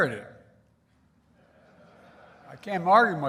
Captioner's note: laughter